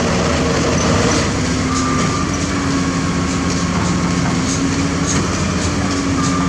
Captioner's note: pump Rumble